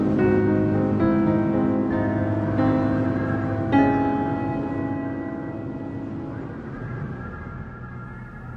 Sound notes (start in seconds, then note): 2.0 windchimes and howling winds